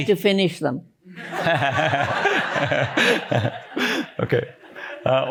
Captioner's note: laughter